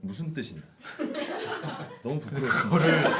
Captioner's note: laughing